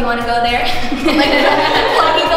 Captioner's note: laughing